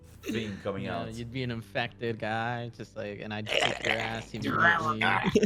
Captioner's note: grunts